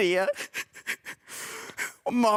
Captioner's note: sobbing